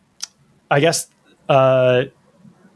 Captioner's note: uh